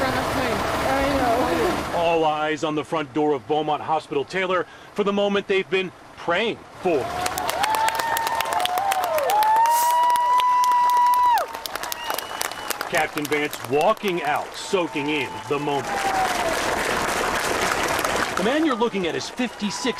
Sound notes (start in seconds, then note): 14.4 cheers and applause